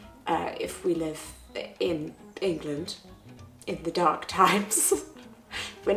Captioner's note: chuckling